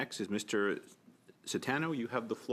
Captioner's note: speaking French